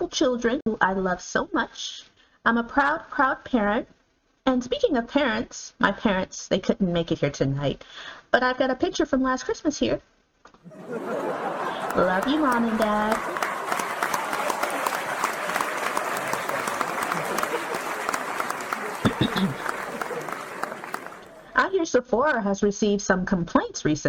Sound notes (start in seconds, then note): 10.6 audience laughter